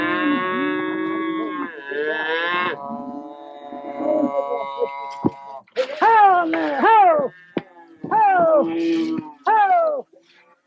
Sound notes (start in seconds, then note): 0.0 cow moos